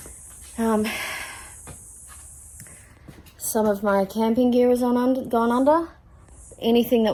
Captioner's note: sighs heavily